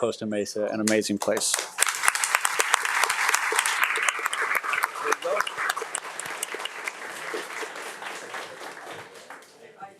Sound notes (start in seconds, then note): 1.2 audience applauding